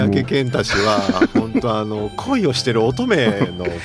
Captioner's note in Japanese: 笑い